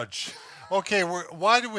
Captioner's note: laughing